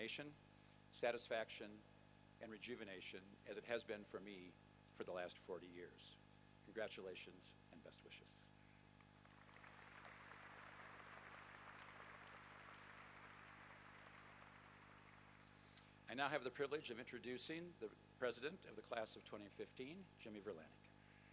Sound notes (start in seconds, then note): 9.1 applause